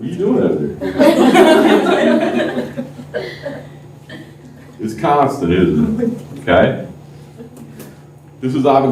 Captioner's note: laughter